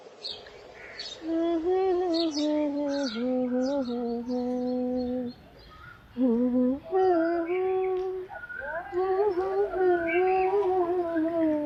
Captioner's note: humming